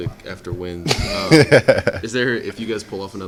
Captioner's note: laughter